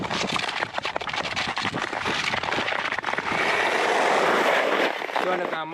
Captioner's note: skating sound/motion